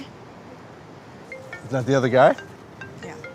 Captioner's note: phone rings